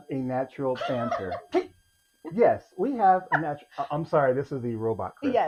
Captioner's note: rigid robot style